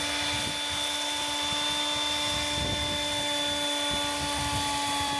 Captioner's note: electric saw whirring